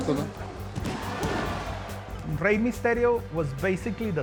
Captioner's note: cheering